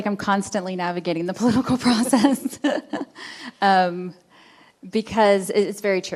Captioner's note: laughing